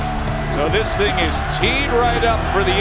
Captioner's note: voiceover